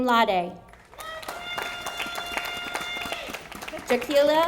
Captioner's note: audience applauding